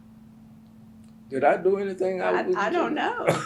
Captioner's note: laughs